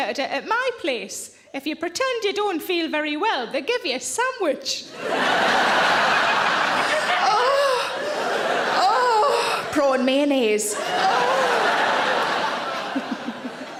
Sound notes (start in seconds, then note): 4.9 audience laughs